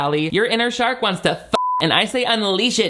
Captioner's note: beep